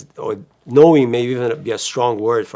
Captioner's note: none